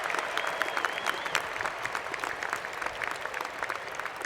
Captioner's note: cheers and Applause